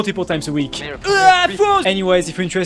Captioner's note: screaming at a monitor